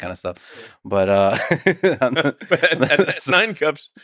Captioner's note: laughs